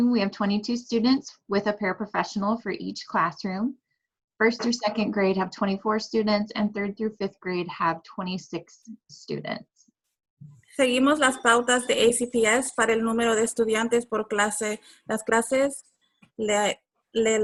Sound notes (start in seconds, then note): 11.0 speaking Spanish